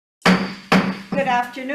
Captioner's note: gavel bangs